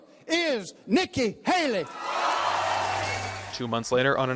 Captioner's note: crowd applause